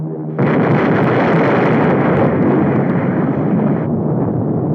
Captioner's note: explosion booming